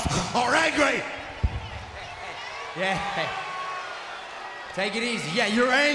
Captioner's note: laugh